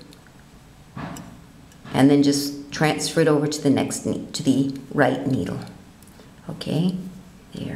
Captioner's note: hammering starts again; hammering stops